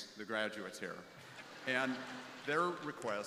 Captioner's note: crowd laughing